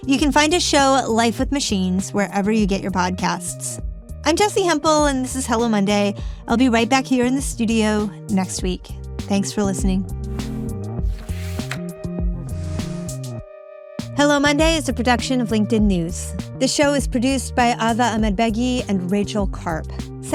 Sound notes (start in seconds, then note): 10.3 screen whooshing; 11.2 reel clicking